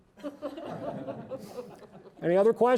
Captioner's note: audience laughing